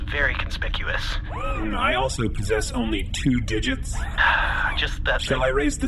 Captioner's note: sighs